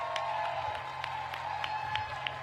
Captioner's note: applause